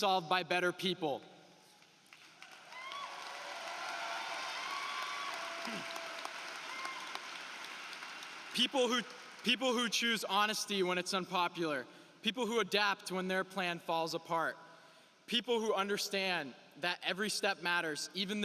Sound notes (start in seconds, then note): 8.3 applause